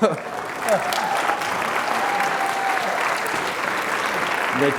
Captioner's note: applause